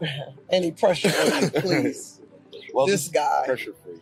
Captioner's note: chuckling